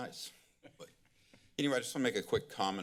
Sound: chuckling

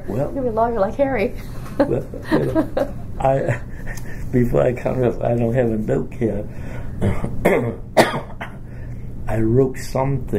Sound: laughs; coughs

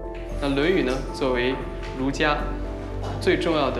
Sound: speaking Chinese

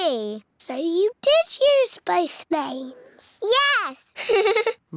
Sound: laughs

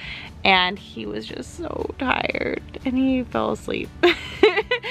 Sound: laughs

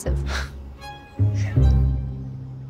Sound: relieved sigh

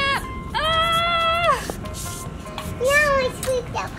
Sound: mom screams

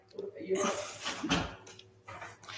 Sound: background chatter; door slams

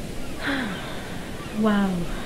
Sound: Robin sighs

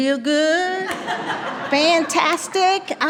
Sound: attendees laughing

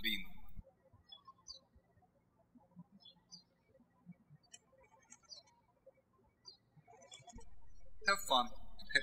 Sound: birds chirping

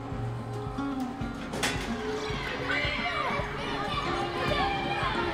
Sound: kids playfully yelling

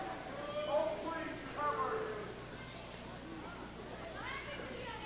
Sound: audience jeering

